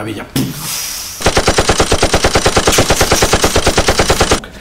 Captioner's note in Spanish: Sonido metralladora